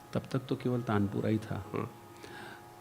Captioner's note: drone